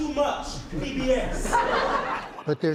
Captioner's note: laughter